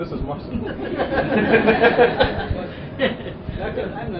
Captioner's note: laughter